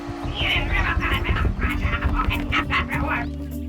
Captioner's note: angry grumbling